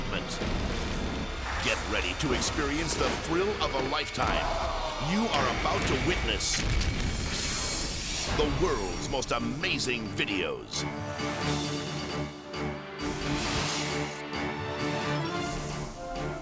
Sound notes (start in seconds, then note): 0.1 plane thumps; 4.1 crowd gasps; 6.6 explosions booming; 10.7 thrilling music; 13.0 graphic whooshing